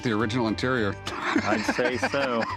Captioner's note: laughter